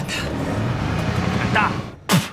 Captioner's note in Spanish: Ruido del vehículo